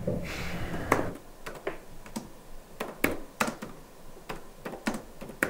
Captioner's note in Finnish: näppäimistön naputtelua